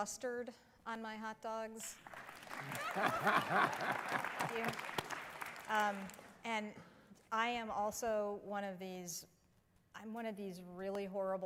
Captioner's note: applause